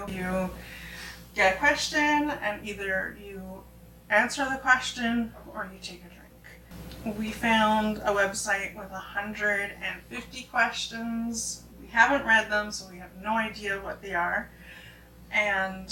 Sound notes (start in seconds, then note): none